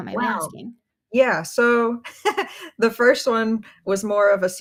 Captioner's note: laughs